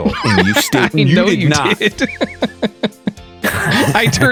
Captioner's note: laughs